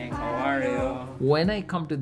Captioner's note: crowd